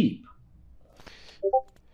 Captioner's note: Discord ping